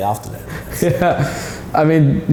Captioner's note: laughing